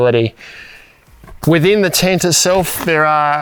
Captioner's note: fabric rustling